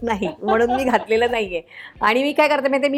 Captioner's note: laughs